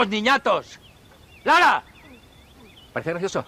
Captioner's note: yelling